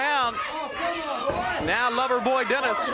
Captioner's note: crowd chatter